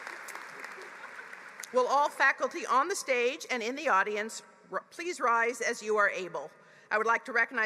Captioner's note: applause